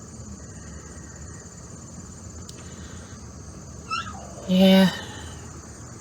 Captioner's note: Ella howls